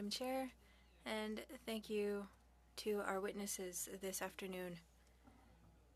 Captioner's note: speaking French